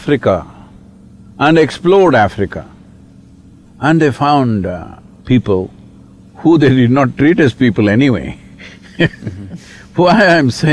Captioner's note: laughs